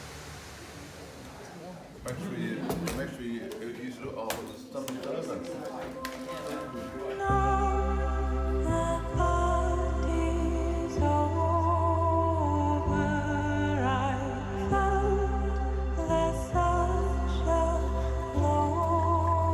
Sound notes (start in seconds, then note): 1.9 group chattering softly